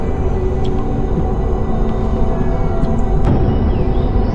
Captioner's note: ominous music continues; water dripping